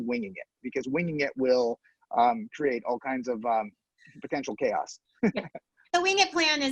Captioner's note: laughs